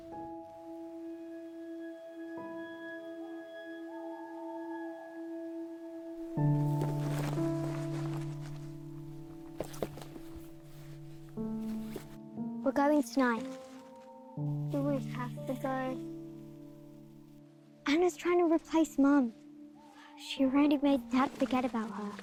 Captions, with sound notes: (gentle orchestral music continues) (owl hooting) - We're going tonight. - Do we have to go? - Anna's trying to replace Mum. She's already made Dad forget about her.